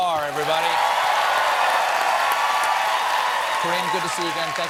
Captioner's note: cheers and applause